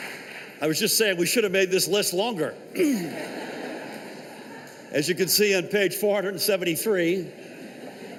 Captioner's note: applause